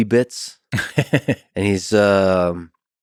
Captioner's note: Tim laughs